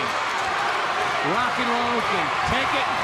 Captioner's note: crowd cheering